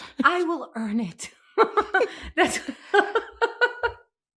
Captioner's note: laughing